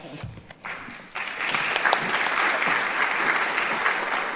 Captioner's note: audience applauds